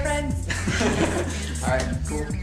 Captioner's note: laughter